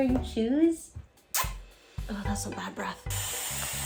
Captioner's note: lips smooch; brush whirring